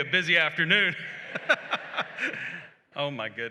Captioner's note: laughter